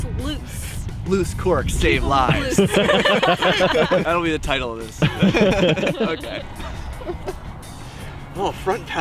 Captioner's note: laughs